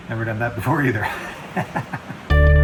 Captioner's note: laughs